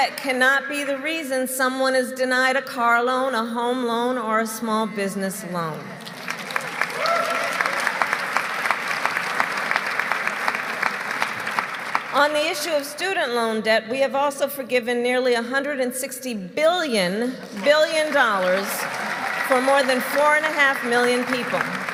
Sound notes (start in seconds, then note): 5.9 applause